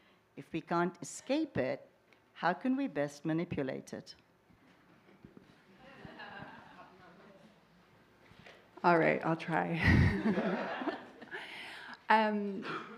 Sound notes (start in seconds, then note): 5.8 laughter; 9.8 laughter